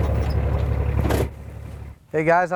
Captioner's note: engine stops